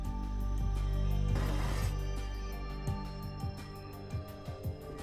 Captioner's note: sword scrapping